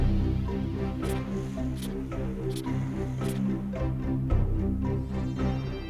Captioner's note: polygraph scratching